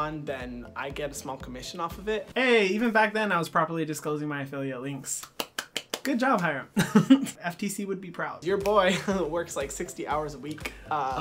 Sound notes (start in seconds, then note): 5.2 clapping